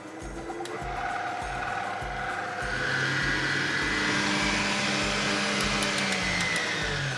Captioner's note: mixer whirs